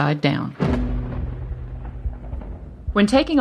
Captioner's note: thunder